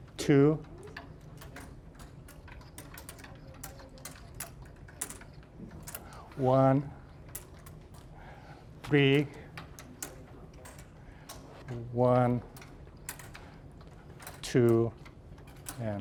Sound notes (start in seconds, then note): none